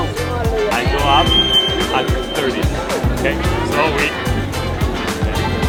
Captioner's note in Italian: Inglese